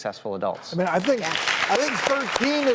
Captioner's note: audience clapping